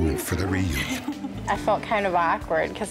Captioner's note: laughter